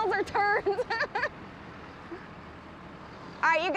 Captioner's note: laughs